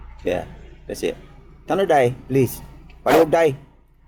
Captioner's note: foreign Language